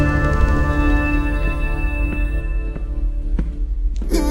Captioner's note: footsteps